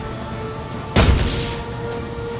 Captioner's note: whack